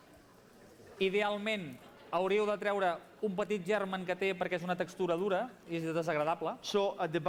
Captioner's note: non-english speech